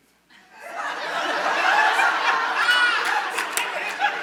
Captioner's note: audience chuckles